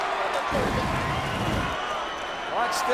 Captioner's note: crowd cheers